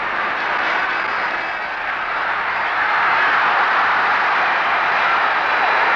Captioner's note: crowd yelling and cheering